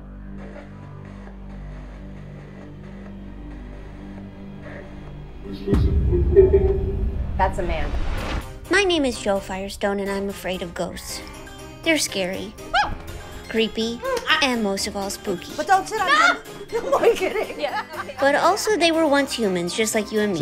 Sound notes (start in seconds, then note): 12.6 fear noise; 12.7 screams